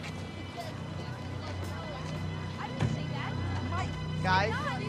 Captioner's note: ominous music; kids chattering